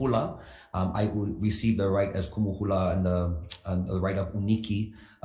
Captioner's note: speaks foreign language; speaks foreign language